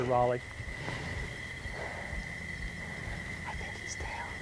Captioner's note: whispering